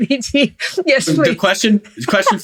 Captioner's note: laughs